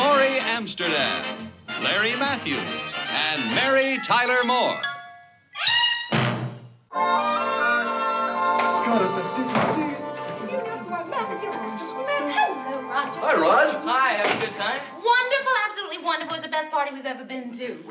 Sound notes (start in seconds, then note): 10.3 humming